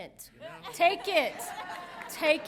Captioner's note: audience laughing